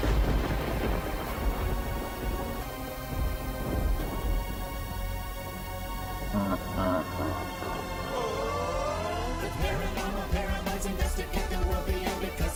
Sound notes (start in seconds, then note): 0.2 ominous music; 6.2 cackling